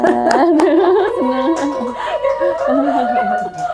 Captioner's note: crowd cheers